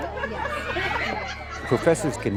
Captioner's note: laughing; shouting/cheering